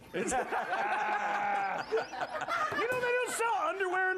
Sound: laughter

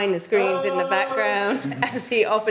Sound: hollering

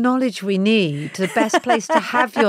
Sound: Giovanna laughs

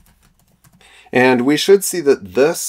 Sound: keyboard clicking

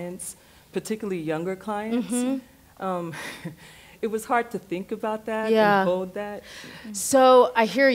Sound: short laugh

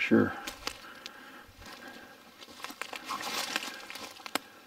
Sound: twigs snapping

